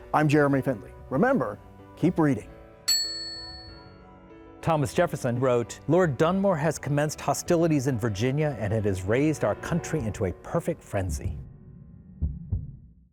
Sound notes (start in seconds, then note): 2.8 bell rings